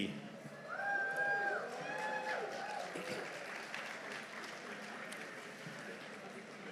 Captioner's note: audience cheering; audience applauding